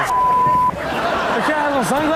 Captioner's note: everyone laughs